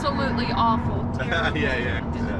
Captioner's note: laughs